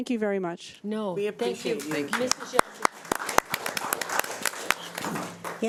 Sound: audience applauding

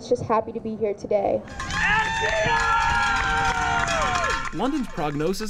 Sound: screaming and cheering

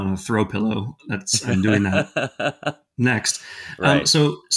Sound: laughing

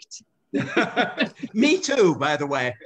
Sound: laughter

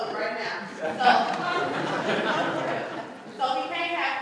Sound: laughter

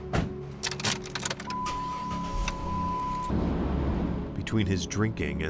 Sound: ignition clicks; engine turning over

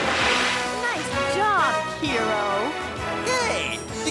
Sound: sarcastically

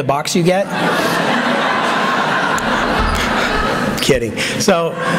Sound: laughter

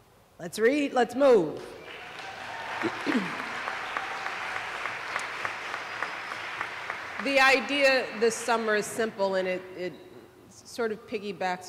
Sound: applause

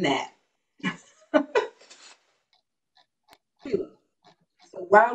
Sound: chuckles

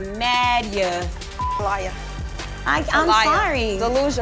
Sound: beep

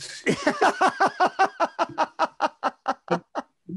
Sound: men laughing

